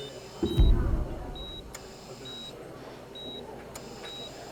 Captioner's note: prolonged beeping; steady beeping